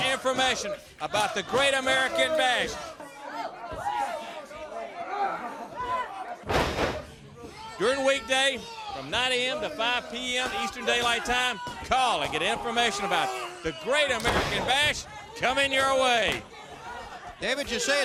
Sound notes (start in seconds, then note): 3.8 crowd chatter